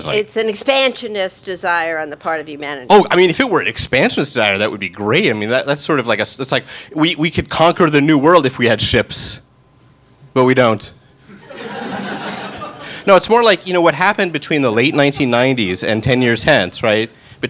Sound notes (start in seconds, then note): 11.3 audience laughing